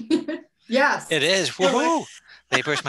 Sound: chuckling

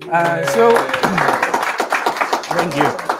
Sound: attendees applauding

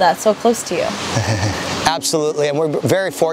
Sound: chuckles

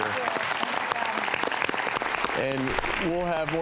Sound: audience applauding

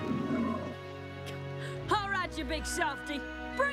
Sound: grunts

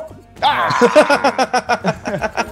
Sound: laugh

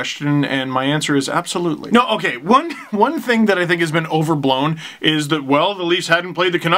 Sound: laugh

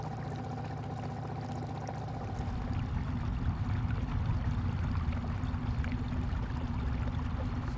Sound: boat engine rumbling; water gurgling

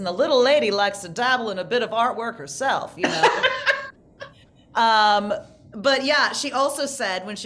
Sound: laughing

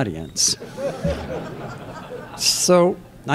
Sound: laughter

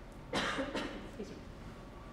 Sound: coughs

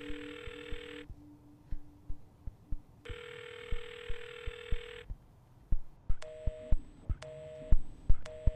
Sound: dial tone

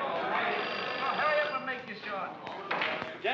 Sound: phone rings

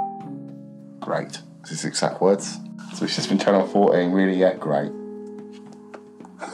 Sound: laughs

